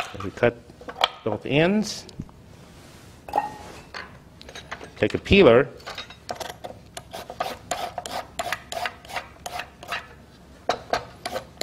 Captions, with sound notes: And we cut both ends. Take a peeler (peeler scraping).